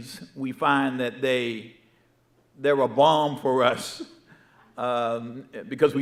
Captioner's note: laughing